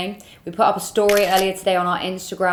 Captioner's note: camera shutter clicking